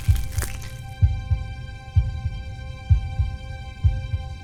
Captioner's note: singular heartbeat